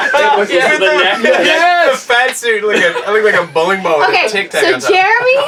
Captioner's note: laughs